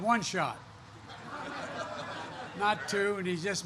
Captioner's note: laughter